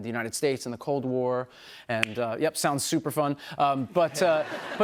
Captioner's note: laughter